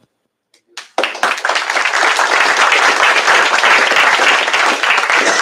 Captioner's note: applause